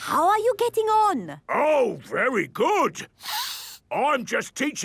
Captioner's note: sniffs